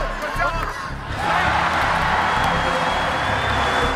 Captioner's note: cheering